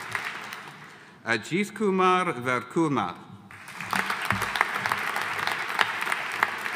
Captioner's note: audience applauding